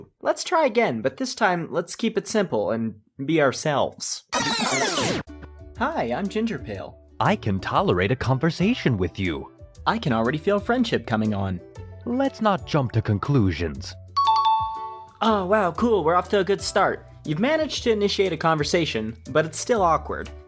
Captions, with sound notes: Let's try again, but this time let's keep it simple and be ourselves. *rewind sounds* Hi, I'm Gingerpale. I can tolerate a conversation with you. I can already feel friendship coming on. Let's not jump to conclusions. *correct bell sound* Oh, wow, cool! We're off to a good start. You've managed to initiate a conversation, but it's still awkward.